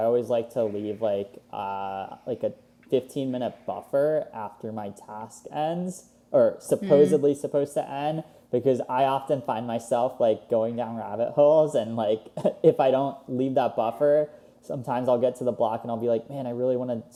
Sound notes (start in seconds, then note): 12.2 laughs